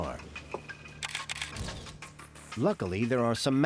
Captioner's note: camera shutter clicking